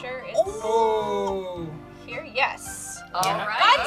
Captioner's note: group awes